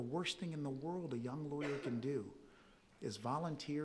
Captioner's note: audience member coughs